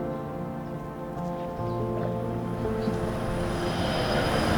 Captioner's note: bus drives up